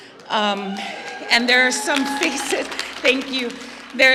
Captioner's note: applause